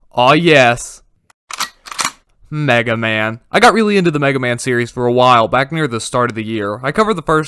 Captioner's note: gun clicks